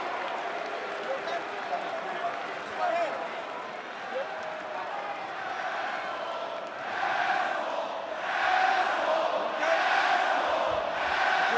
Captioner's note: crowd chatter